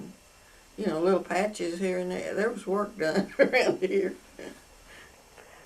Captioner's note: laughs